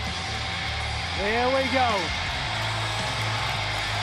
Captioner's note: crowd cheering